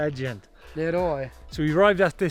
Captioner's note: speaks in foreign language